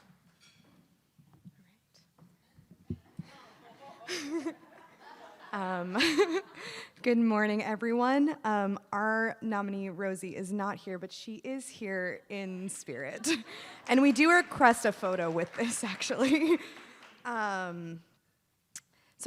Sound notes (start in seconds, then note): 3.2 attendees laughs; 15.5 laughs; 15.8 attendees applauding